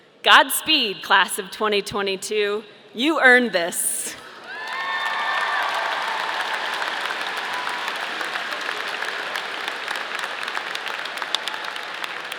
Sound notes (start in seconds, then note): 4.3 audience applauding; 4.3 audience cheering